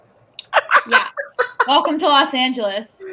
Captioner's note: laughs